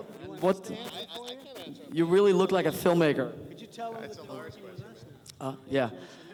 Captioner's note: none